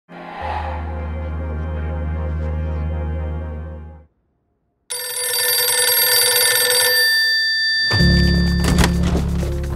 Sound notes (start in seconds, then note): 4.9 phone ringing